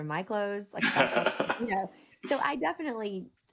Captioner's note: laughing